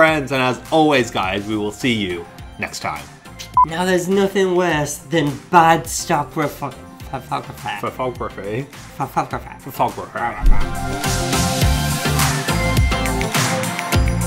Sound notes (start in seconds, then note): 3.5 tone beeps; 9.7 happy, upbeat music